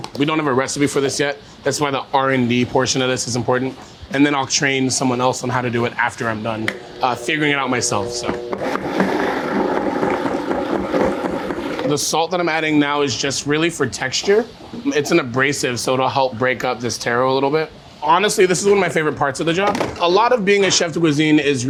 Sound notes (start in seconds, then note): 8.2 blender whirring